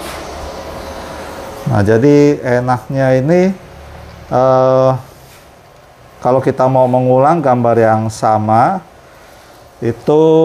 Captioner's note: printer machine noise; printer machine noise